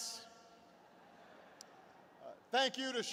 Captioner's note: laughter